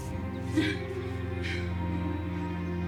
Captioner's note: panting; upbeat music